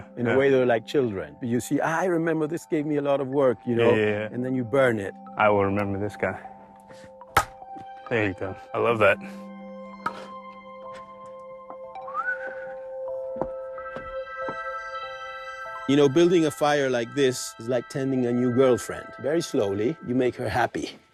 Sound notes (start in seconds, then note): 11.8 whistles